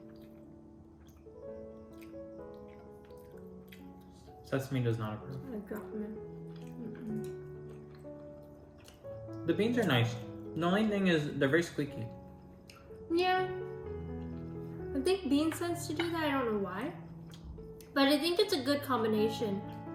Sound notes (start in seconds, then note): 6.0 more chewing and nodding in agreement lol